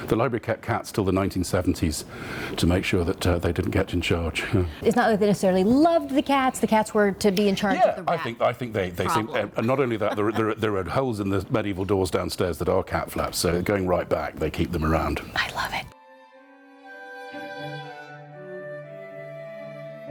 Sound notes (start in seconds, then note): 15.7 whispering; 16.0 classic music